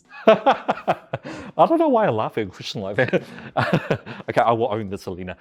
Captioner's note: laughs